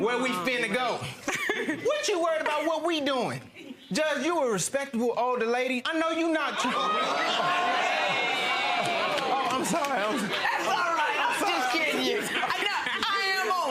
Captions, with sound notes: "Where we finna to go?" What you worried about what we doing? Judge, you a respectable older lady. (audience gasping) I'm sorry-- - That's all right! I was just kidding you!